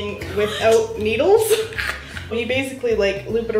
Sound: laughing

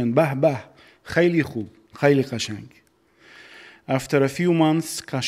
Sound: speaking in foreign language

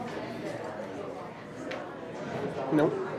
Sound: people chattering

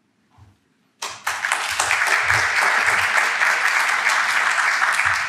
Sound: audience clapping

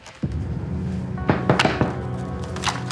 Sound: knock on the door

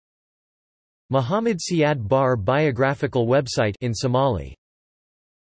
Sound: in Somali

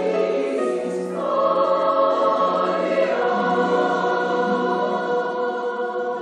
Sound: choir speaks in foreign language

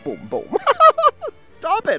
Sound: laughs

